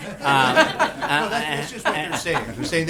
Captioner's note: laughter